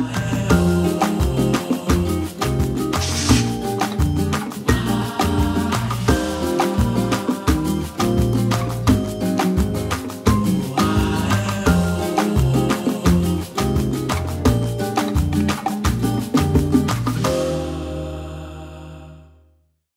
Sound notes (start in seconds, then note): 0.2 upbeat music; 2.9 screen whooshing; 14.8 upbeat music continues